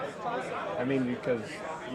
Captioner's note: murmurs